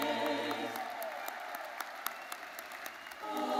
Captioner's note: audience cheers